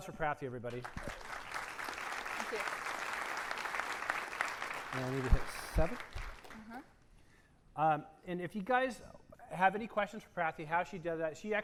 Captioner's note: applause